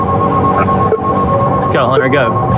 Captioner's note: wararnining s sirirens